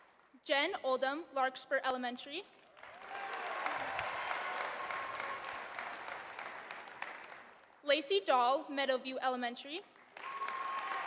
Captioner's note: applause